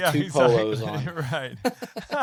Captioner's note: laughs